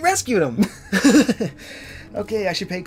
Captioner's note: laughter